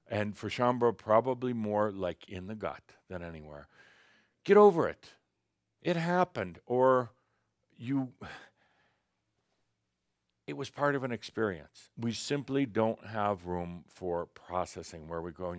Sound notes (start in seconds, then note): none